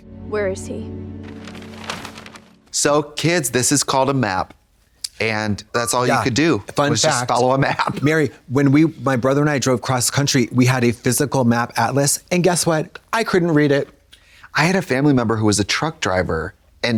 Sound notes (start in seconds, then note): 1.2 map crinkling